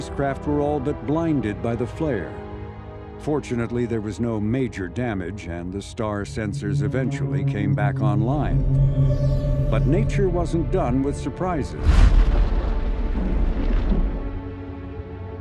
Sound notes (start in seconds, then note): 10.3 soft music; 11.8 loud blast